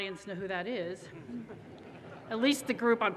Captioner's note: audience laughter